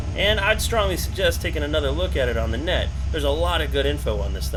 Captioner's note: car engine rumbling